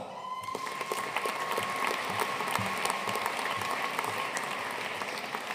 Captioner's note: audience cheering and applauding